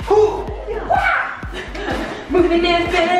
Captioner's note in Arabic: يضحك